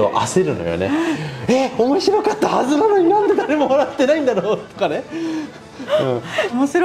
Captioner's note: laughs